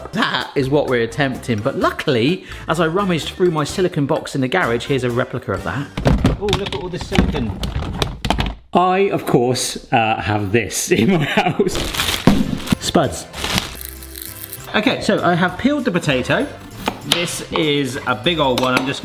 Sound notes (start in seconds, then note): 6.0 silicon gadgets rattling; 11.7 potatoes thud